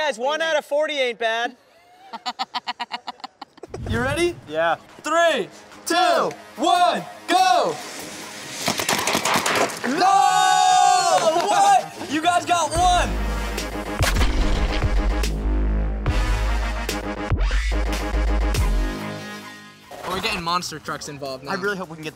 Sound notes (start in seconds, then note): 1.6 laughs; 8.6 paint balls shooting; 9.8 cheering; 13.7 dramatic electronic music; 14.5 paint ball splatters; 16.3 dramatic electronic music